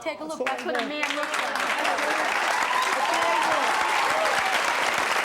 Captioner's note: audience applauding